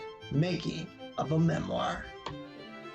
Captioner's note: click